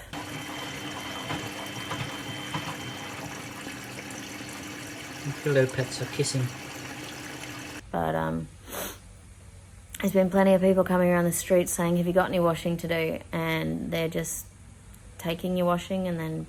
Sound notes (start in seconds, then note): 0.0 washing machine rumbles around lightly, then stops; 8.6 sniffs